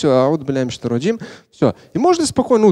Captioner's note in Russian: Говорит на арабском